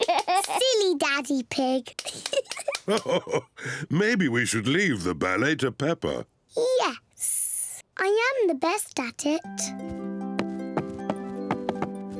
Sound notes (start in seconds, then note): 0.0 giggles; 2.0 giggles; 2.0 laughs